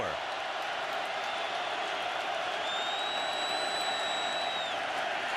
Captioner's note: cheers